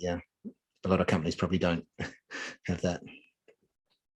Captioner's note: chuckling